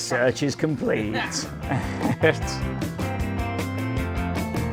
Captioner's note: chuckles; upbeat music continues